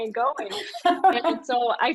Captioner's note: laughs